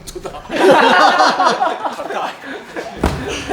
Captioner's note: laughs